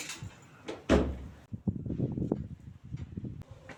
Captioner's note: door closing